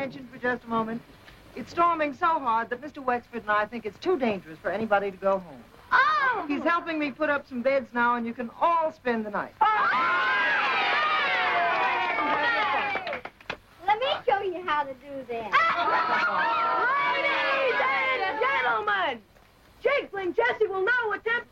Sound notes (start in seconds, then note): 6.2 children cheering; 6.2 children clapping